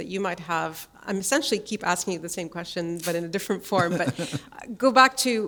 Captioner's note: chuckle